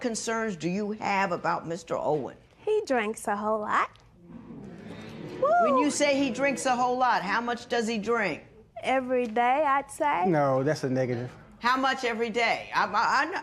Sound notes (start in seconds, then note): 4.4 spectators murmur